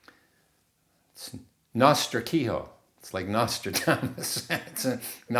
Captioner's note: laughing